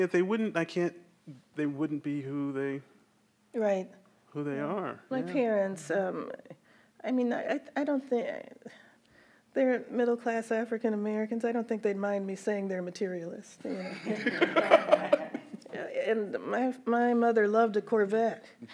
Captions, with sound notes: They wouldn't, I can't, they wouldn't be who they, - Right. - who they are. - My parents, I mean I don't think, they're middle class African Americans, I don't think they'd mind me saying they're materialists. (everyone laughs) My mother loved a Corvette.